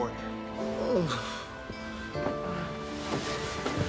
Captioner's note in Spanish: gemidos